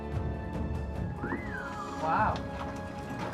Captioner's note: whistles